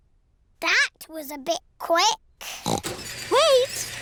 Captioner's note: oinks